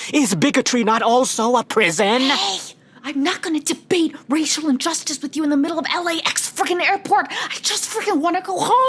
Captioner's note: whispering